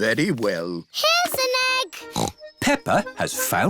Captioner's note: snorts